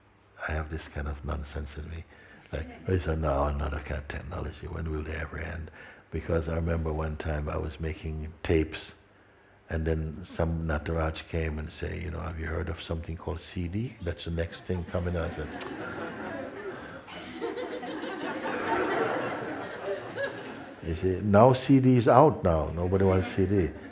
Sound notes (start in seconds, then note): 17.4 tuts and dismisses; 19.0 laughter